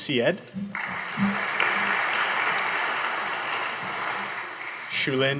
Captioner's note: audience applauding